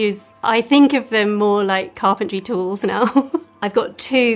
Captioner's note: laughs